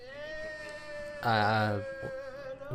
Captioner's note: stutters some letter